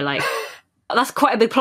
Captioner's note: laughing; wheezes